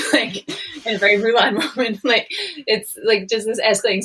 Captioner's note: laughing